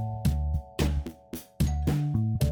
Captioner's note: doorbell